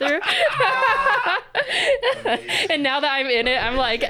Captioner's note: both laughing